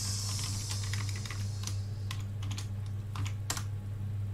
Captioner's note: keyboard clicking